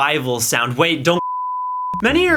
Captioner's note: test signal tone